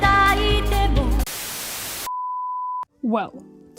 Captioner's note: static